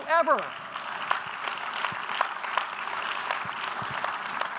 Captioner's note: audience applause